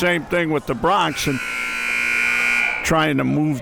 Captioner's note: buzzer ringing